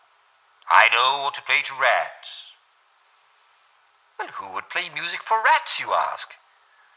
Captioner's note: regular accent